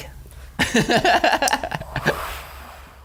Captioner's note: laughing; sighing